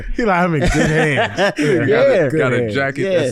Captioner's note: laughs